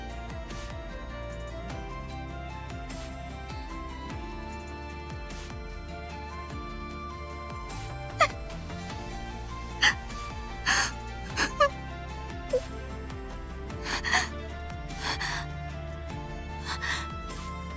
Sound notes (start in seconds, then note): 10.6 sobbing